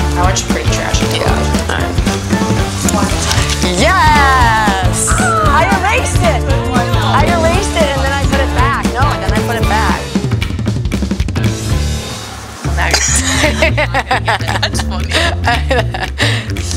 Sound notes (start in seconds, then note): 13.2 laughter